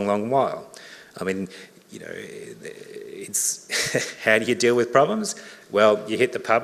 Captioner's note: laughs